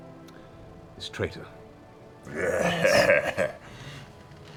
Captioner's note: satisfied laugh